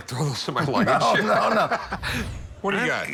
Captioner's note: laughs